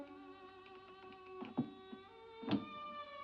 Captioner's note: latch clicks; eerie music